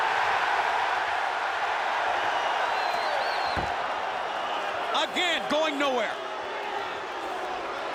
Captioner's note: applause